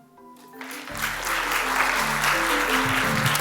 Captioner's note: applause